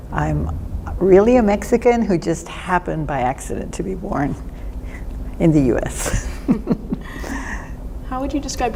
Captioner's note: laughter